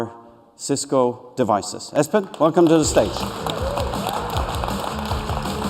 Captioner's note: applause